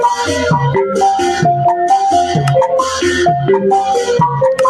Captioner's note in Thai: ปรบมือ